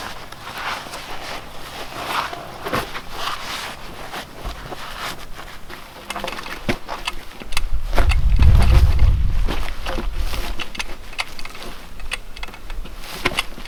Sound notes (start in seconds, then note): 7.9 log rolling